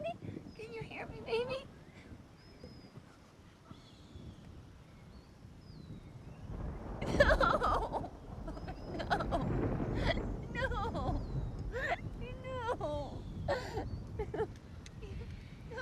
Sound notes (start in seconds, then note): 4.8 bird chirp; 14.1 female laughter